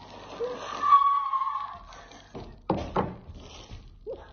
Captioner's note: person laughing